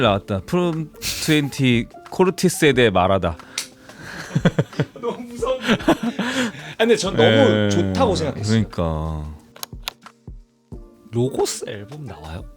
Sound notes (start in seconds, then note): 5.8 laughs